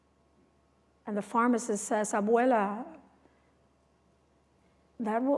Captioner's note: non-english speech